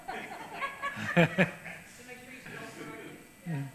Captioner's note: laughs